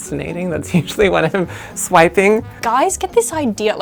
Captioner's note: laughs